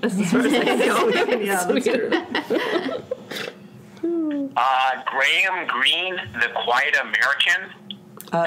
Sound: laughs

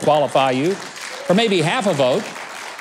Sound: audience clapping

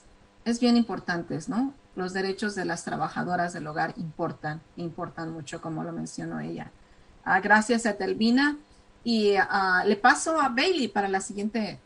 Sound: speaking spanish

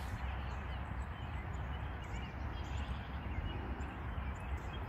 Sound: birds in background, sometimes airplanes

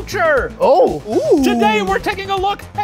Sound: dinosaurs gasping

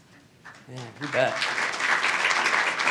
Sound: applause

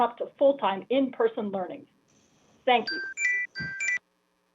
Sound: chime

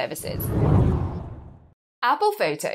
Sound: screen whooshing

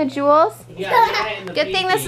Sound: laughs

